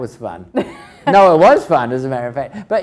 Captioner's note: laughs